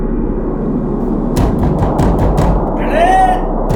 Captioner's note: banging the door; yelling